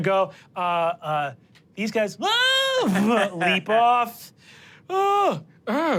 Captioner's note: yells